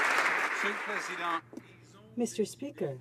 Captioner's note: some Applause